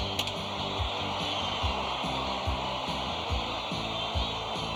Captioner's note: cheering